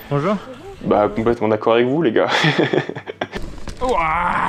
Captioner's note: laughs